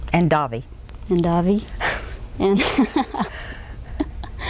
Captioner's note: laughs